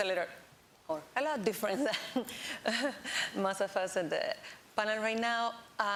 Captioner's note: laughs